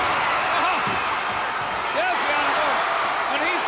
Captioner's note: crowd cheers